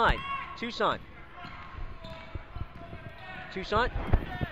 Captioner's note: crowd cheers